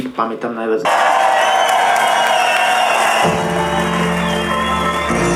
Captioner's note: crowd cheering